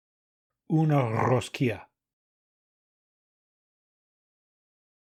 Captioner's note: Spanish